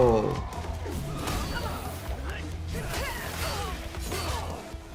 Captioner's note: characters grunting